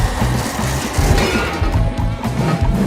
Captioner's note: snap!